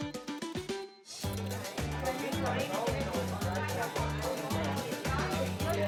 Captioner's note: people chattering